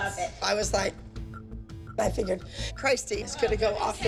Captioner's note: none